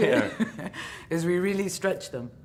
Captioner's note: laughing